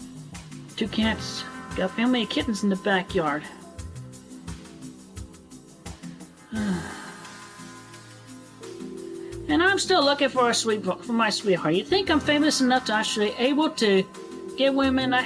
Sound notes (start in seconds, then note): 6.4 sigh